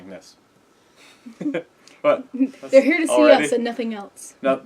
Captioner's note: laugh